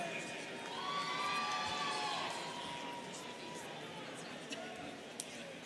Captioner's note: students cheering